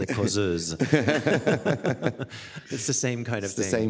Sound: both chuckling

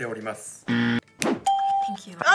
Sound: buzzer rings; bell rings

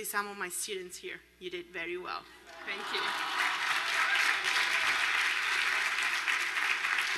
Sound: spanish

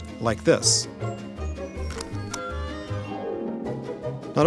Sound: clicking report spam button

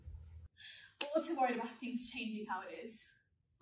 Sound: none

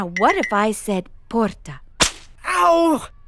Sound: smack

